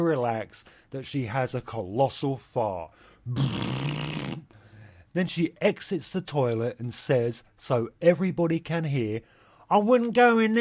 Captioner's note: fart noise